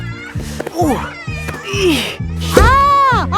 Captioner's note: grunting